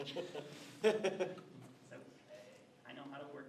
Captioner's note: attendees chuckle